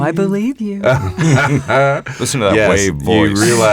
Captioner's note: all laugh